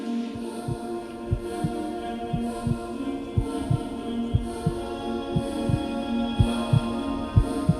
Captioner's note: heartbeat